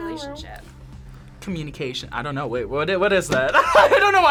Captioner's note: laughs